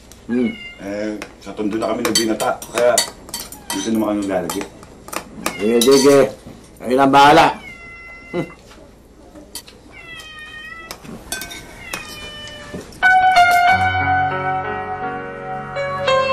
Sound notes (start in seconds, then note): 8.3 scoffs; 13.0 melancholic music playing